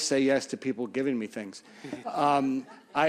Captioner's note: laughter